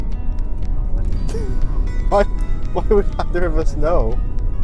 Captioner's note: laughs